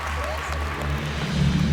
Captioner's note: applause